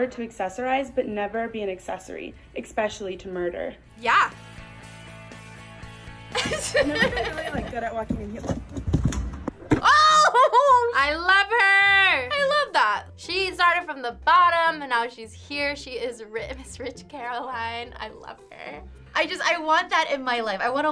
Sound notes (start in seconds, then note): 4.0 upbeat music; 4.3 laughs